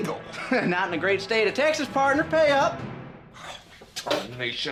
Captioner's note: puts on an accent